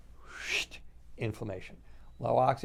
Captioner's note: exhales deeply